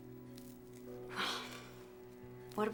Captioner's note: sighs